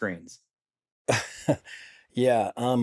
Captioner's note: laughs